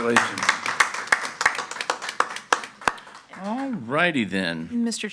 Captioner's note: audience applauds